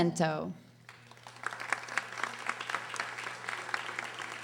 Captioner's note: audience applauding